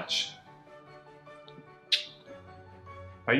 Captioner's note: kisses